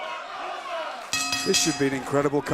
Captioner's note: bell ringing